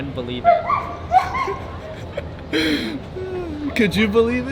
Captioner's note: laughs